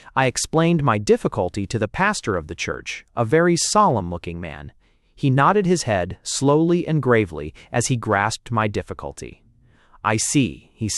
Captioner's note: and here his voice assumed the deep sepulchral tones of the preacher